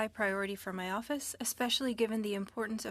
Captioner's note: speaking French